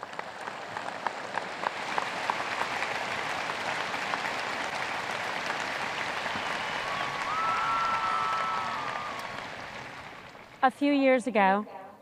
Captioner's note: audience applause